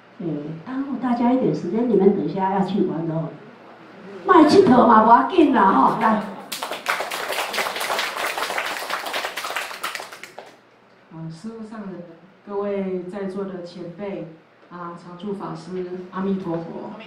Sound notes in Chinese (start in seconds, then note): 6.2 眾人鼓掌